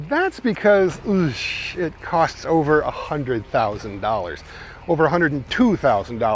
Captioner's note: upbeat rock music; groaning